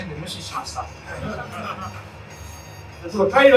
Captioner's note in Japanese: 会場：笑